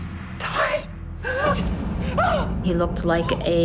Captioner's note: grunts